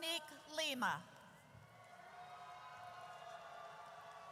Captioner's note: audience cheers